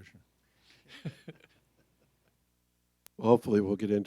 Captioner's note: laughs